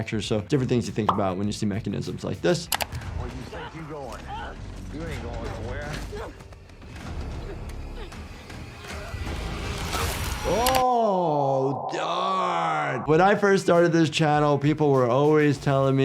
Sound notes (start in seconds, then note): 6.2 Lucy groans; 7.0 dramatic music